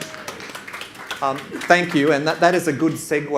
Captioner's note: audience claps